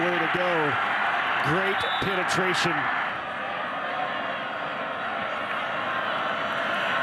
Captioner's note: referee blows whistle